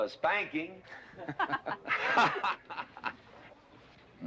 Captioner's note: laughter